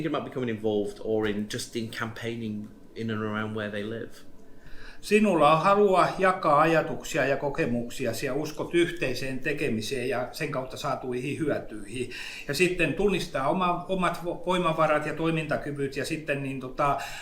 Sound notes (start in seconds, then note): 5.1 speaks in Finnish language